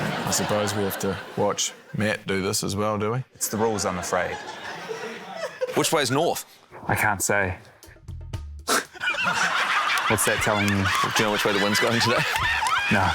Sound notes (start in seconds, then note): 8.7 snorts, laughs